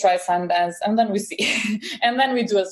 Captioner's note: laughs